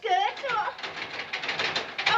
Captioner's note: furnace rattling